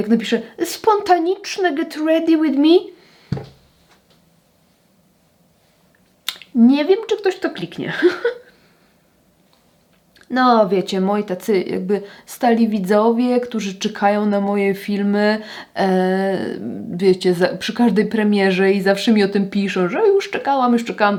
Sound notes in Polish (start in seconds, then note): 7.9 śmiech